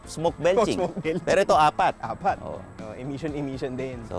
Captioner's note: laughing